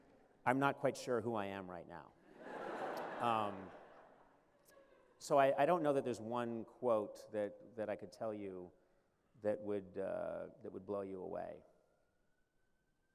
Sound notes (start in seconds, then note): 2.3 laughter